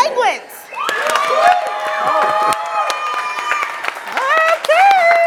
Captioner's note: audience claps and cheers